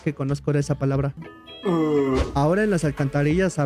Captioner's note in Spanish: Ohhh